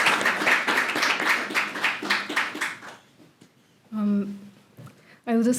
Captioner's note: applause